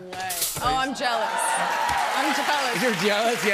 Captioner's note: cheers and applause